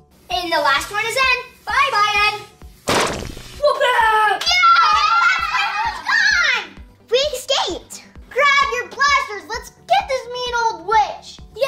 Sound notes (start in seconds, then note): 2.8 balloon pops; 3.6 kids cheering